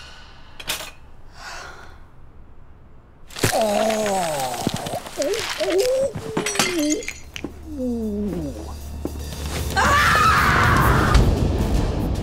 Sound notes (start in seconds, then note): 1.4 sigh